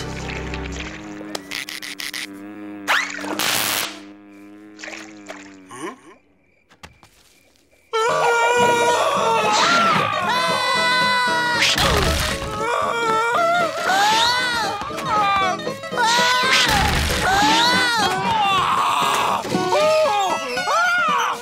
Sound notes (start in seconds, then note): 0.0 buzzing; 7.9 screaming; 11.2 thudding; 12.4 screaming; 18.0 screaming